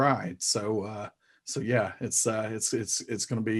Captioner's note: stuttering